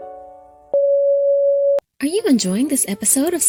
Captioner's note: soft beeping